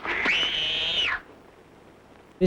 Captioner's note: scream